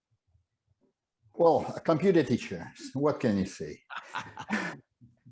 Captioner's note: laughs